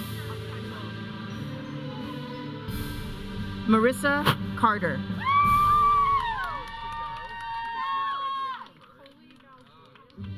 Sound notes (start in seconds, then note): 5.2 audience cheering